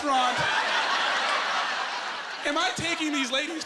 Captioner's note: laughing